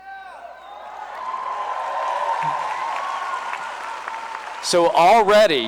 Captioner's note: cheering and applause